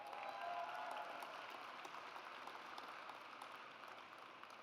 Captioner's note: audience applauds